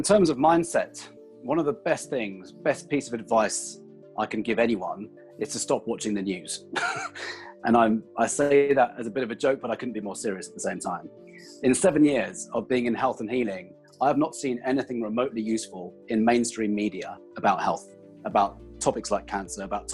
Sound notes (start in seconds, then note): 6.7 laughs